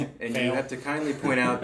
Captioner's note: laughs